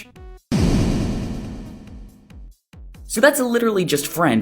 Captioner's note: wham